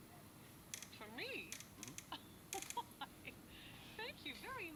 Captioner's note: laughs